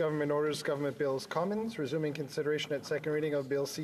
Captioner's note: speaking French